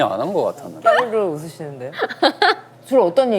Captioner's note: unintentional Laughter